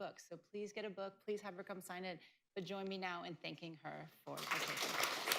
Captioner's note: applause